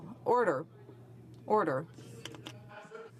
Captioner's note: speaking in french